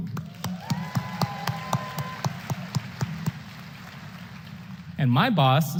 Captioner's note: applause